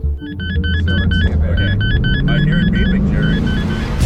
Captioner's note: radar beeping